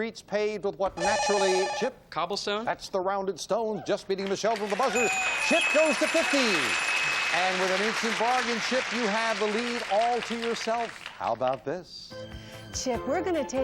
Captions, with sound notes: you get a feeling of old world charm from streets paved with what naturally-- (beep) -Chip? -Cobblestone? -That's the rounded stone, just beating Michelle to the buzzer. (ding) -Chip goes to 50. (bell) -And with an instant bargain, Chip, you have the lead all to yourself.